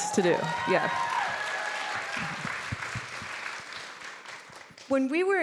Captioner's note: audience applauding